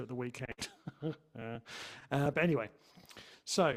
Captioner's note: chuckles